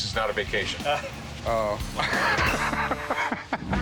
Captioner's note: chuckling